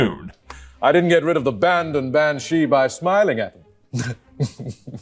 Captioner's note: chuckle